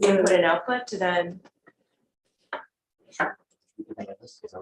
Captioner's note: audio dropout